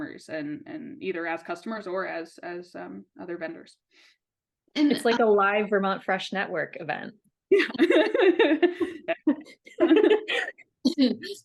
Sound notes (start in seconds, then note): 7.6 everyone laughing